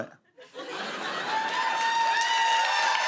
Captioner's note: laughter; cheers and applause